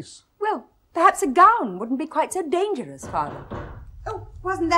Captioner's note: knocks on door